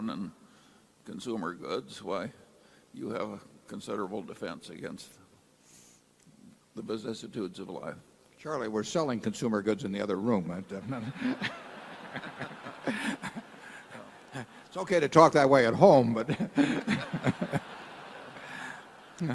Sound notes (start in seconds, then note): 11.8 laughter